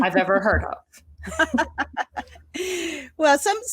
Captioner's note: both laughing